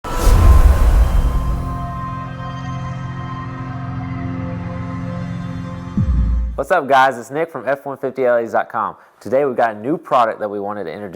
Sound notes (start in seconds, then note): 0.0 sound effect